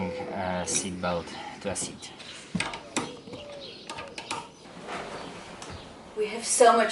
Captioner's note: construction sounds